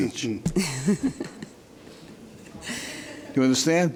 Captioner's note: laughing